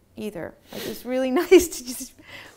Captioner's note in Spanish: risas